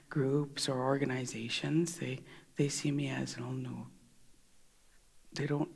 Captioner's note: In Mi’kmaq